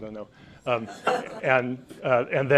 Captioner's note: audience laughs